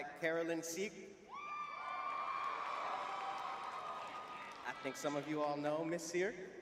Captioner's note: cheering